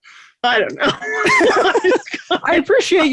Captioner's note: both laughing